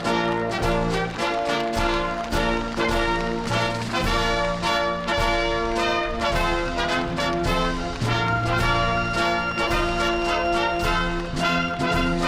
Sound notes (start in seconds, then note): 1.8 applause